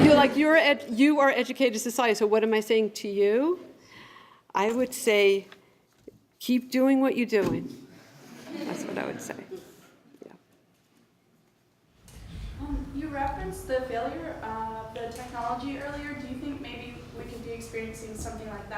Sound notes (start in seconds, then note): 8.3 laughter